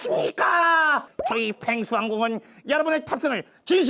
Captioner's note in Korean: 입틀막